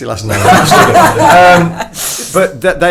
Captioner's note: everyone laughs